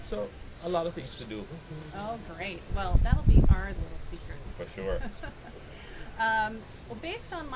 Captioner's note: laughing